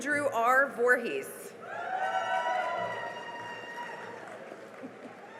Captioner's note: cheering and applause